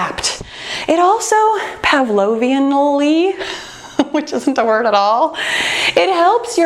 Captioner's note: laughs